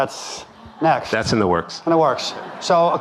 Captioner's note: audience laughing